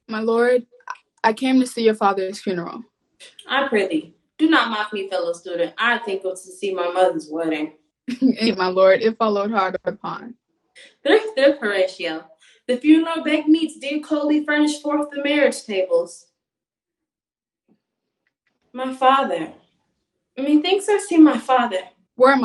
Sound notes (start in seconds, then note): 8.1 chuckles